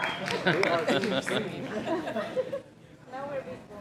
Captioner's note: applause